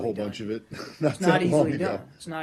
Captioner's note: laughter